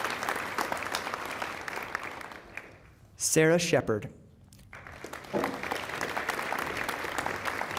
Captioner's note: applause